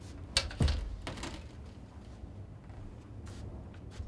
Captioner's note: board thuds